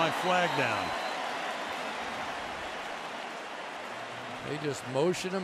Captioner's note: cheering